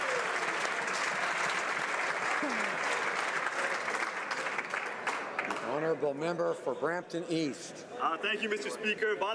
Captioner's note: applause